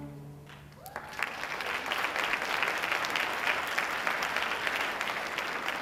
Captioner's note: audience applauding